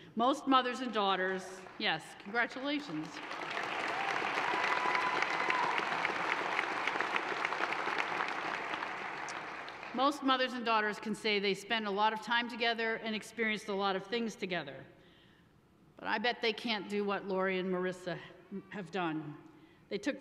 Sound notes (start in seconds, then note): 3.1 audience applauds and cheers